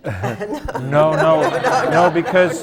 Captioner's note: laughter